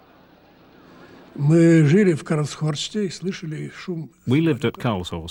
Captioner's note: speaking russian